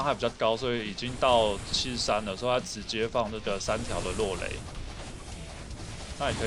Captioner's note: lightning